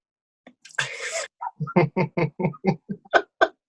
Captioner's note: laughs